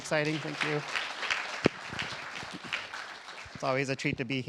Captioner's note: applause